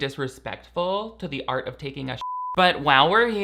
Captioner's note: beep